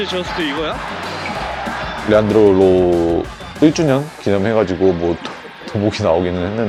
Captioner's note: 박수